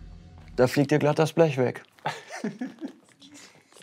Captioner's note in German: Kichern